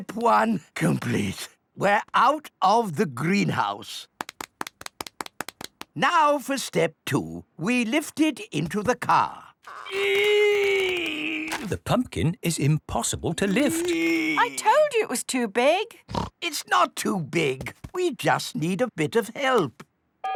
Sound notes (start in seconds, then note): 9.7 straining; 16.1 snorts